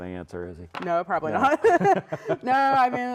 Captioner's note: laughs